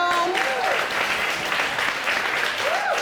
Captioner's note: audience applauding